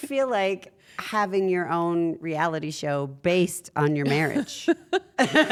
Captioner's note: laugh